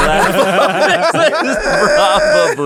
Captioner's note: laughter